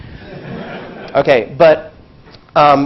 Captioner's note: laugh